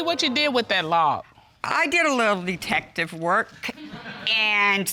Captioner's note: audience laughs